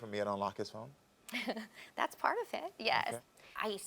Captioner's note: chuckles